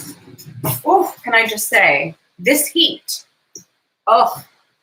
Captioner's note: groans